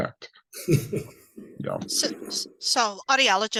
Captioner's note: chuckles